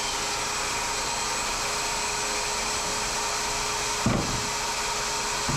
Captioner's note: drill whirring